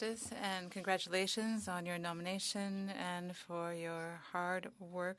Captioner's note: speaking French